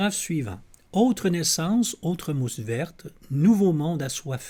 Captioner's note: reading in French